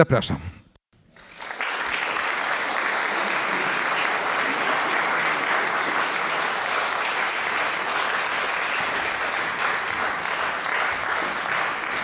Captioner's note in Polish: oklaski